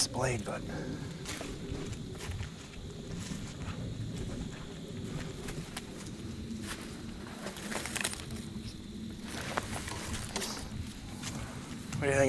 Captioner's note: walking